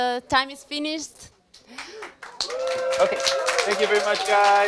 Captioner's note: applause